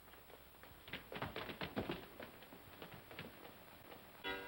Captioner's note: feet scrambling; clock chimes